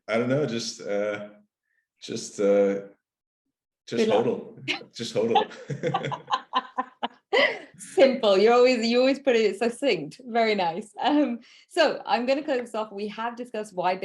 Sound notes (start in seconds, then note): 5.2 both laughing